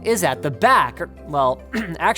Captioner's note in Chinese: 咳嗽